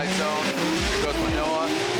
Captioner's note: engines rumble